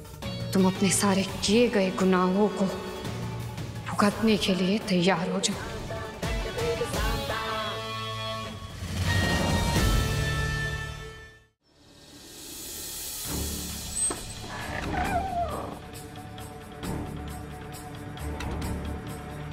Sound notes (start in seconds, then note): 9.0 pensive music playing; 13.8 door opens